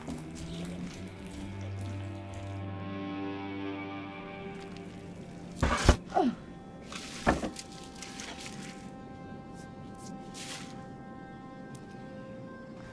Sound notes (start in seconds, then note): 0.0 liquid splashing; 0.1 sinister music; 5.6 door thuds; 6.0 Claire grunts; 8.4 suspenseful music